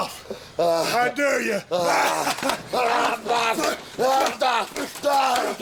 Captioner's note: laughs